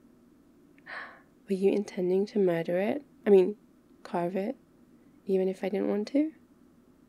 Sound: gasp

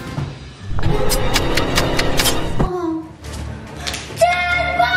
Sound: slicing sound

